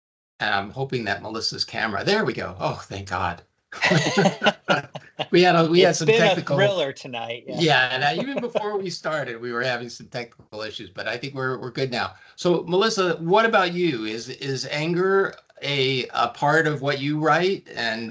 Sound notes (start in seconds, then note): 3.7 chuckling